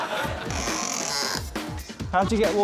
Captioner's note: bird squawks